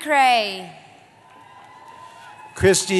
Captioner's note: cheering